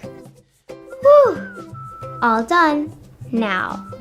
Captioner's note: exhales